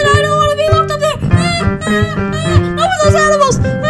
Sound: US cries

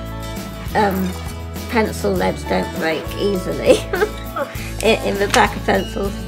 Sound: laughs

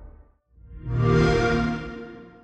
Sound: xbox sound

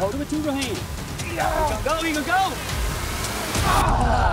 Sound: grunts

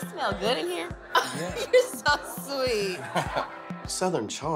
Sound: laughs

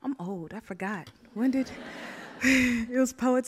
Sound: audience laughs; laughs

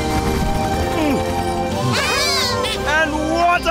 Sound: Bongolalas cheer

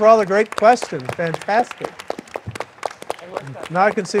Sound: audience applauding

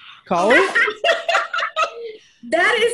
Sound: everyone laughing

